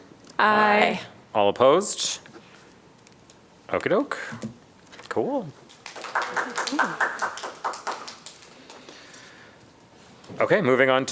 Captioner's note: applause